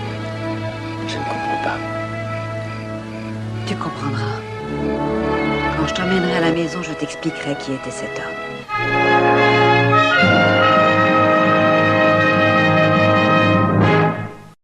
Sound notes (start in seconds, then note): none